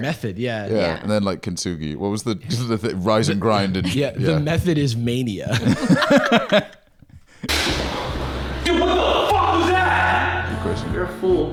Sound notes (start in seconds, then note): 5.9 laughing